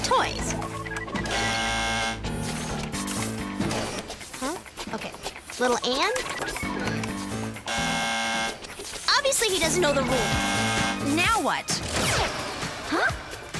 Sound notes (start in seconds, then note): 7.6 buzz